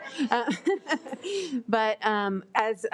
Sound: laughs

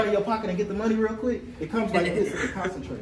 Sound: laughing

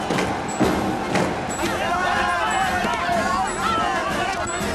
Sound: clamoring

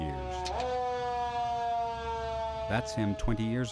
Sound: siren blares

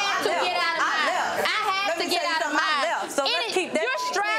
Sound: both women yelling across the stage

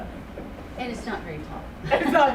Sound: chuckles

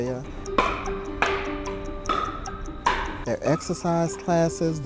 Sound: players hitting balls

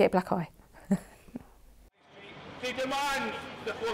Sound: she chuckles

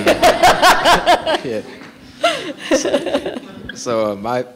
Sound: laughter

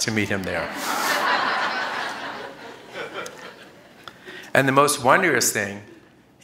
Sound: laughter

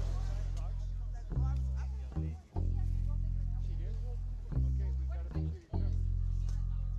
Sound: people chattering; gentle music

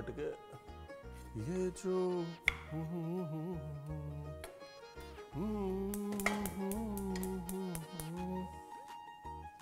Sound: chef humming

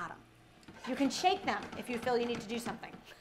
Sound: pan clanging

